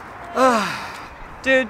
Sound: sigh

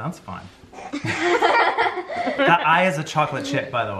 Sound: laughs

